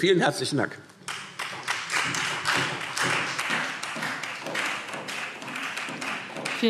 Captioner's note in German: Beifall Freie Demokraten und SPD